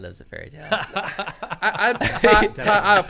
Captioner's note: men laughing